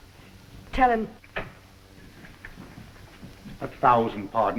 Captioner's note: door opens